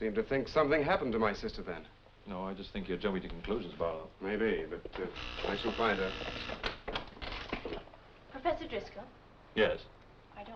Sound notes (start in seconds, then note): 5.1 door buzzing